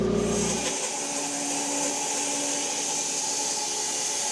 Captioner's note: saw buzzing